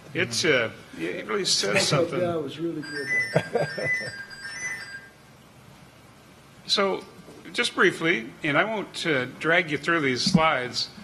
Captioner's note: laughter